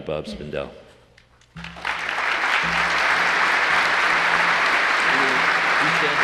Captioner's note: applause